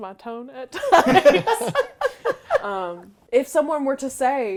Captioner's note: laughing